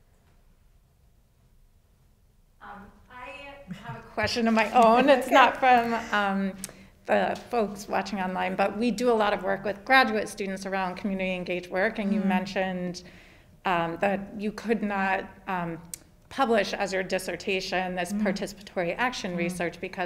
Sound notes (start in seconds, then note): 3.7 laughs